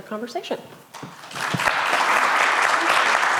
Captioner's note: applause